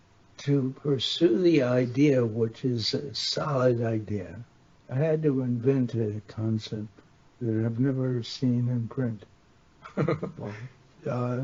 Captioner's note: chuckles